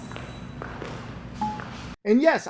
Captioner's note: graphic dings